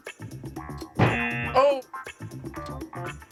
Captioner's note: buzzer